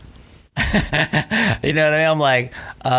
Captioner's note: laughing